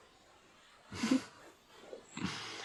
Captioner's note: giggles